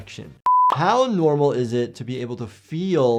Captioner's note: screen beeping